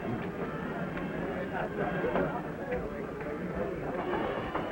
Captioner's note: people chattering